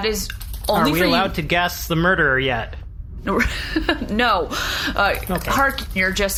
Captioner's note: laughing